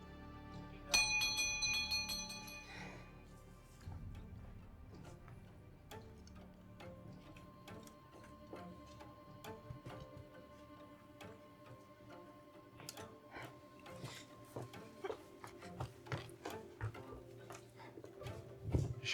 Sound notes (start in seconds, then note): 0.9 doorbell rings